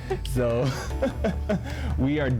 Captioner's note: laughs